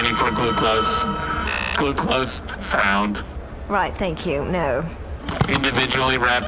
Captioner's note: scanner sound; buzzing